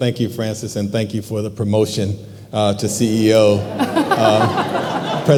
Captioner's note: laughing